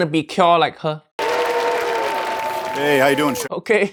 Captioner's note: crowd cheers